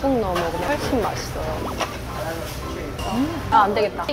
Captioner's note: nom nom